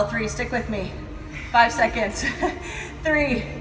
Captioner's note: laughs